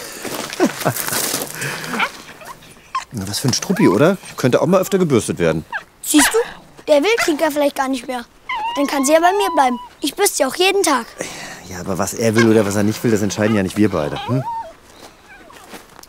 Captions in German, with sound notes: (Lachen) (Kläffen) Was für ein Struppi, oder? Könnte auch mal öfters gebürstet werden. Siehst du, der will Tinka vielleicht gar nicht mehr. Dann kann sie ja bei mir bleiben. Ich bürste sie auch jeden Tag. Was er will oder nicht will, das entscheiden nicht wir beide.